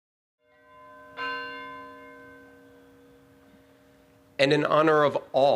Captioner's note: bell ringing